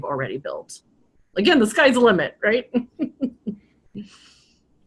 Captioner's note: laughs